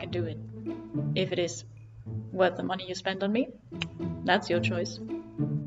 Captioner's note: clicks tongue